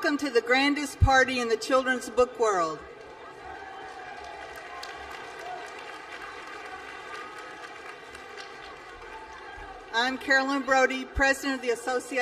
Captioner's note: applause